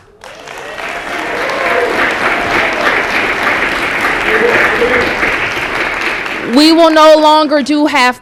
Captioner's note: applause